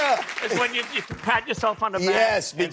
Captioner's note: applause